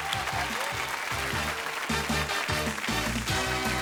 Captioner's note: audience applauds; upbeat game show music